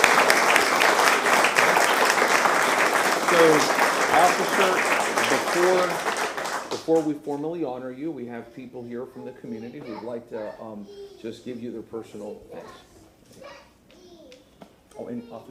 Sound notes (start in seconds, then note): 0.0 applause